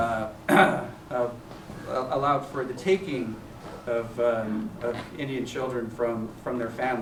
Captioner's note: clears throat